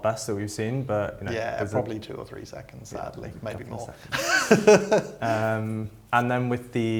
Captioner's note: laughs